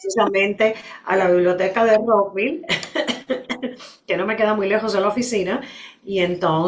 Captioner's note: risas